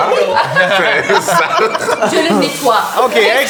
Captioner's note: the group laughs; general commotion